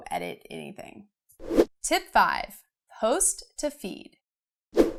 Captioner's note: air whooshing